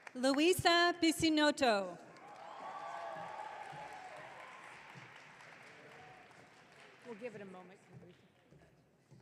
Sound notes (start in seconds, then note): 3.7 audience clapping